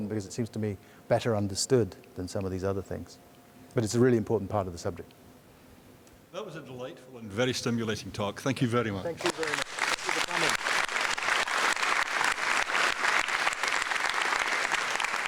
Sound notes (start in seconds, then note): 13.1 applause